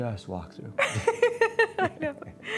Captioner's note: laughing